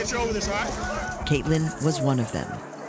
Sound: yelling

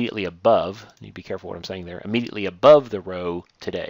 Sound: clicking

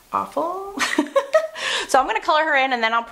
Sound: laughs

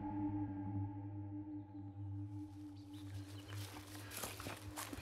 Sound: forest din

